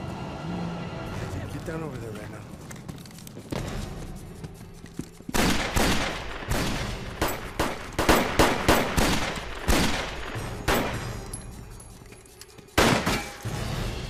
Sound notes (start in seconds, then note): 5.3 guns firing; 5.3 dramatic music